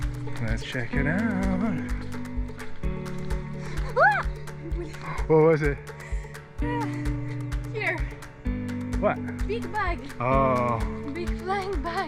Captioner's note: screams